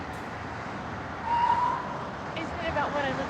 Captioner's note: tires screeching